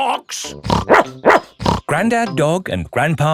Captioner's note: snorts; barks